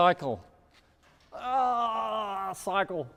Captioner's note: grunts